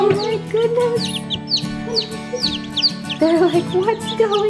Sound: chirps

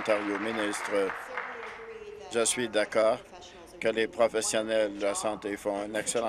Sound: applause

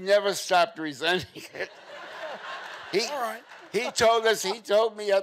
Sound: chuckles

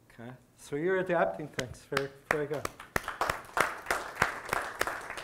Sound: audience applause

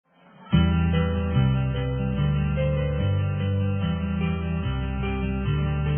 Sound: people chattering; inspiring music

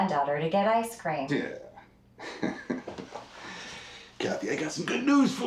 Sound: laughs

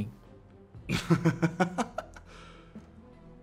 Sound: The Hotelier laughs again

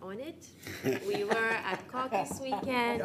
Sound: everyone laughing

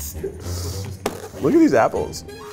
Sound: inhaling deeply

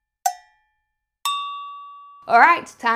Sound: high-pitched bell dings

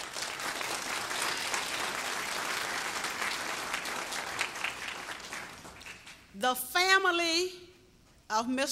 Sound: applause

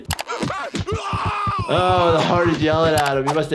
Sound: yells in pain; heart pounds

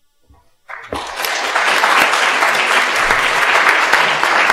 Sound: applause

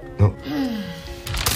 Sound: kate groans

